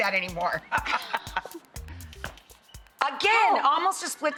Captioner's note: laughs